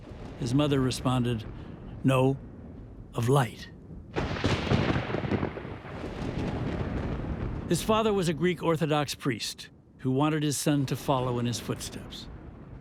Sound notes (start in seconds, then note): 3.9 thunder rumbling